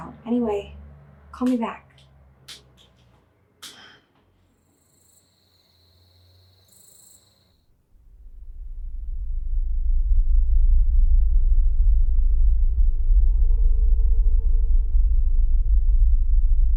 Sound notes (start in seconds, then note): 4.5 crickets chirping